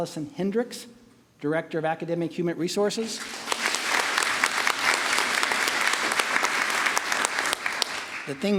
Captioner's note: applause